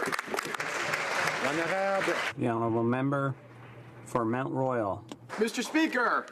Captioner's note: some Applause